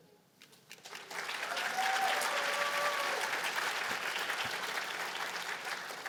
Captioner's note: cheers and applause